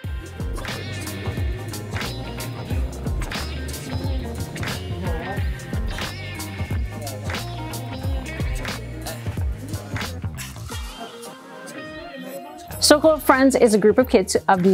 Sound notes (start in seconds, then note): 0.2 upbeat music; 4.3 indistinct conversation